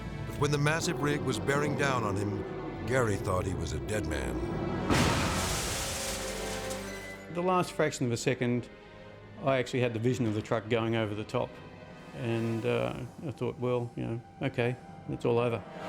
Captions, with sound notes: When the massive rig was bearing down on him, Garry thought he was a dead man. (truck crashes) (glass shattering) - The last fraction of a second, I actually had the vision of the truck going over the top. And I thought, well, you know, okay, it's all over.